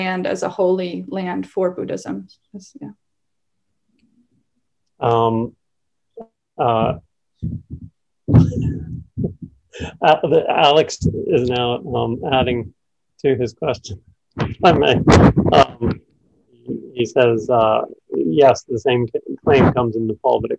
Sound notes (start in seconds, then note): 9.7 laughs